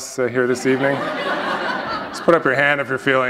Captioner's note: laughter